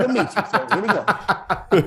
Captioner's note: hosts laughing